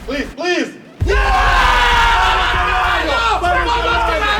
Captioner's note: team cheering